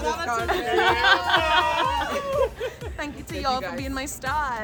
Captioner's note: chuckles